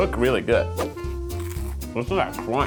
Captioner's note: crunches